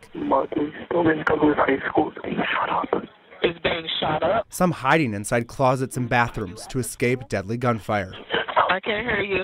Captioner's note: nats of 911 calls